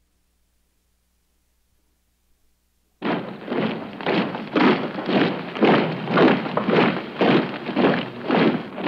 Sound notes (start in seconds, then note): 3.0 shoes stomping